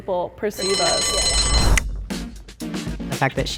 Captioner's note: bell rings